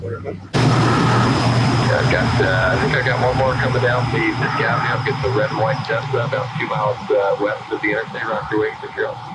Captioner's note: radio